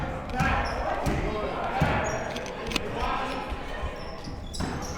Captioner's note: none